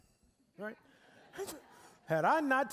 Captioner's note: audience laughing